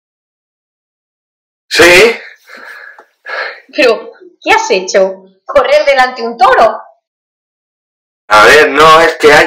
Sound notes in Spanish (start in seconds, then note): 2.2 respira agotado